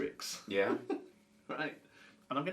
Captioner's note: laughs